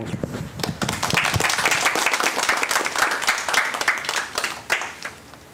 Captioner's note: applause